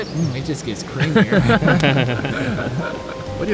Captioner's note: all laugh